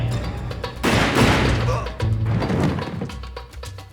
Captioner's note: grunts